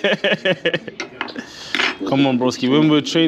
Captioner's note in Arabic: يضحك